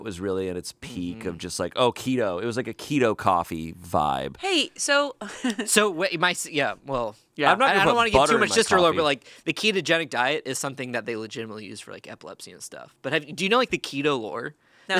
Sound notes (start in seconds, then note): 5.2 giggles